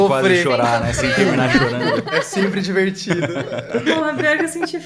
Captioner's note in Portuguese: risos